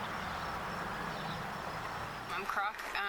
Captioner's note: birds chirping